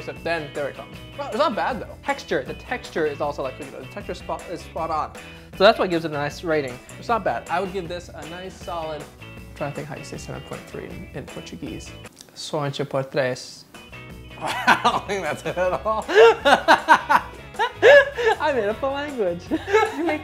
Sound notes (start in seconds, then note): 12.5 speaking Portuguese; 16.2 laughing